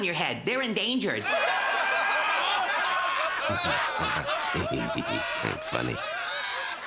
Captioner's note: laughing